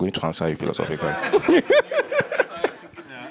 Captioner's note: laughter